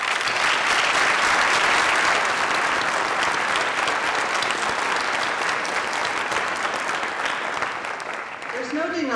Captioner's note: applause